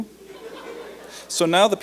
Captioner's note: light laughter